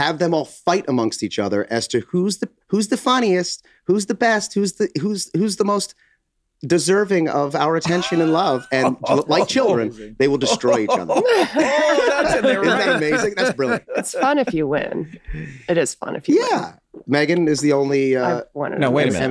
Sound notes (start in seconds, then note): 8.8 Glenn laughs; 12.0 group laughs